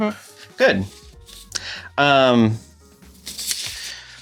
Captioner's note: shuffles papers